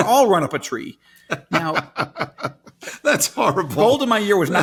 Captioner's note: laughs